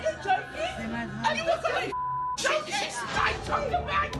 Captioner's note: beep